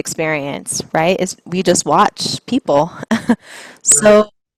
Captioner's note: chuckles